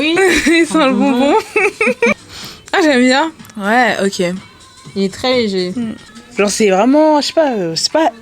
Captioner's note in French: rires